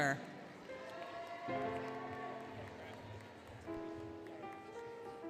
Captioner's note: applause, Cheering, Music